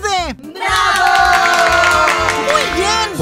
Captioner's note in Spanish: Aplausos